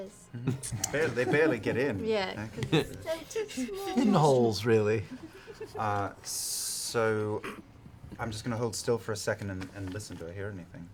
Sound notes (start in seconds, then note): 3.1 cutesy voice